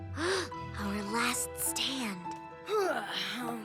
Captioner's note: gasp; yawn